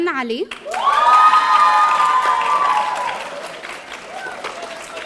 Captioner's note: audience cheering